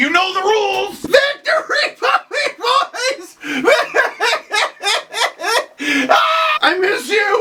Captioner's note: laugh-cries